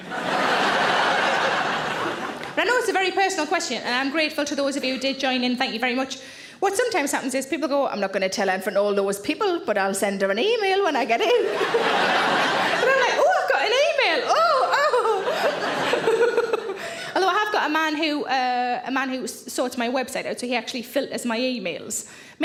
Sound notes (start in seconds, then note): 0.0 audience laughs; 11.2 audience laughs; 14.2 laughs